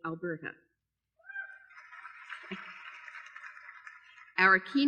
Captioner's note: applause